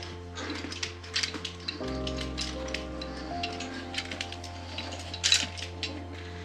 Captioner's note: rocks and gravel crunching